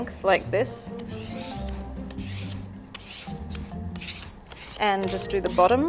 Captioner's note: peeler scraping over squash